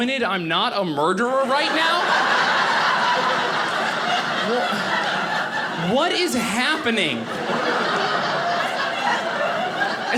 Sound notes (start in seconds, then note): 1.4 audience laughing